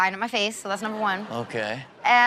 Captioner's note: audience laughs